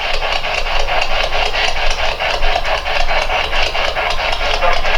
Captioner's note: static; radio squeals